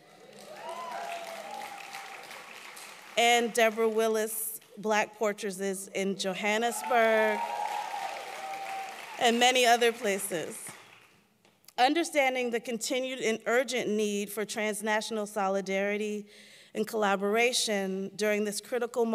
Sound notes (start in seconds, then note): 0.0 applause